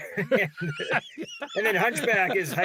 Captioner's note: laughing